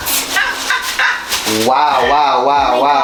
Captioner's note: laughing